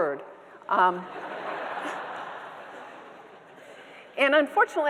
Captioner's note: audience members laughing